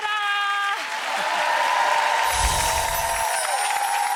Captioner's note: applause